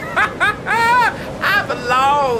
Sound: laughs

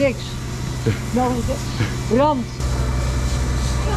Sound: sniffs

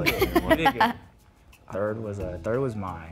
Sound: laughs

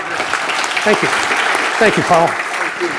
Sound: audience clapping

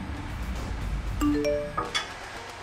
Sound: phone chimes

